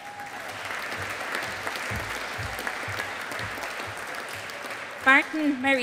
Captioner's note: audience applauding